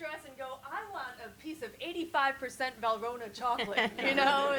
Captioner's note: all laugh